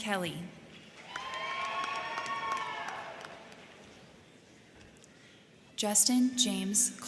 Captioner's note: crowd clapping; crowd cheering